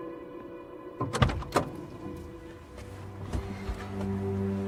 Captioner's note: door clicking